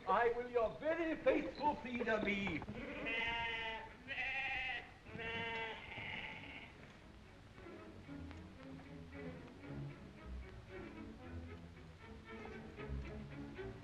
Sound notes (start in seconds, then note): 2.6 sheep baaing; 7.7 upbeat music